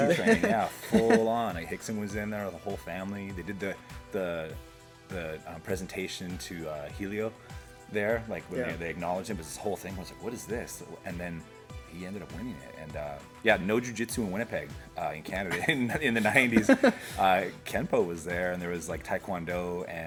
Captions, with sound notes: Yeah, the Gracie train, full on. Rickson was in there, the whole family. They did the presentation to Hélio, there, like where they acknowledge him, but it was this whole thing. It was like what is this? And then he ended up winning it and uh, yeah, no Jiu Jitsu in Winnipeg in Canada in the nineties (Laughter) Kenpo was there and there was like Taekwondo and